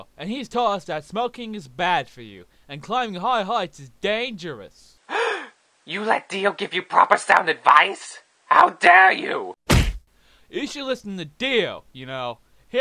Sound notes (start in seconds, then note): 5.0 gasp; 9.6 hwack